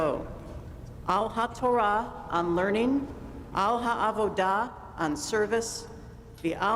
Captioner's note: speaking hebrew